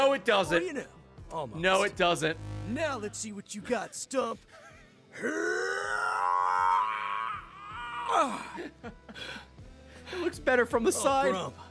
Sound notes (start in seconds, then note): 2.5 laughs